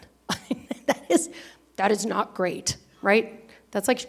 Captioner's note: laughs